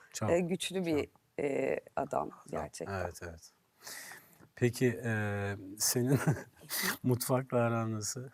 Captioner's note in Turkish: kahkaha